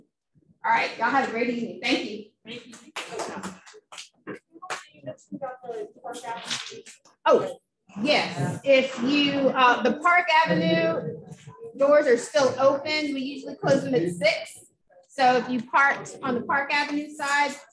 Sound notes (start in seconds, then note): 2.9 applause